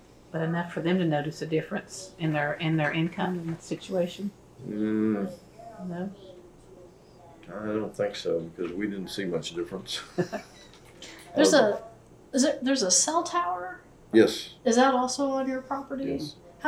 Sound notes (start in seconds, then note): 9.9 laughs